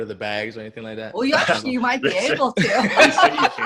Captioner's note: laughs; laughing